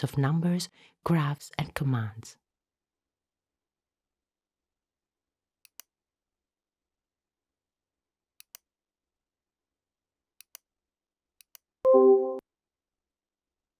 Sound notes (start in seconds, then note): 5.6 computer mouse clicking; 11.9 computer dings